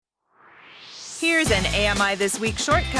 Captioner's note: swoosh